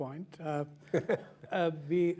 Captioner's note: chuckles